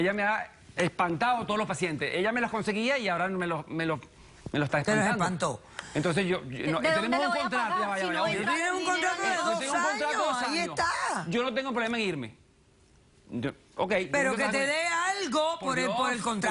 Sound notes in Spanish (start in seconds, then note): 6.7 Hablan al unísono